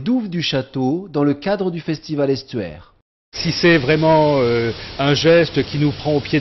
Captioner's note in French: Voix off